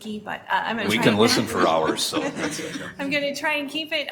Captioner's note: board members laughing